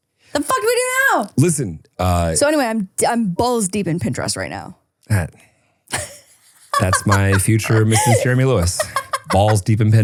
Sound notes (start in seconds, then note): 6.7 person laughing